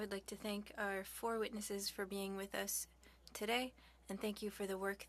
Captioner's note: speaking French